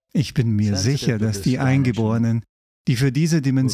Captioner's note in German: lacht